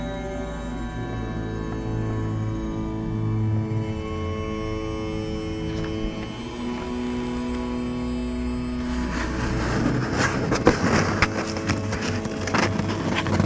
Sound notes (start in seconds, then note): 8.7 cardboard rustles loudly